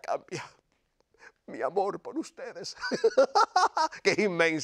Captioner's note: laugh